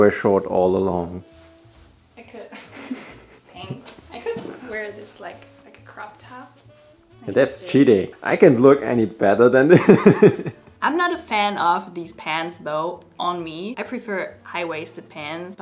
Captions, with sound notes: - Maybe they were short all along. - I could-- (chuckles) I could wear this like, like a crop top. - That's cheating. I can't look any better than that. (laughs) - I'm not a fan of these pants though on me. I prefer high-waisted pants,